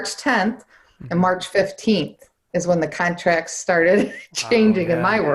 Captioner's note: laughs